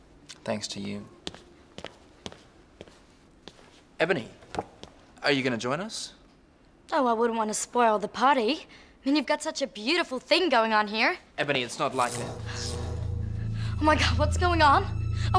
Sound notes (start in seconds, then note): 11.9 lights crackling; 12.0 tense music